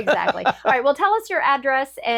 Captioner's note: laughs